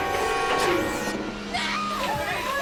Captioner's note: female scream